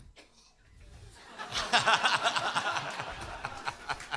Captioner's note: laughter